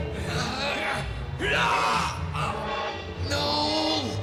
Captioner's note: yells